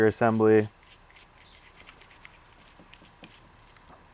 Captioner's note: brushing